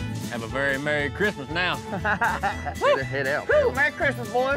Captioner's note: laughter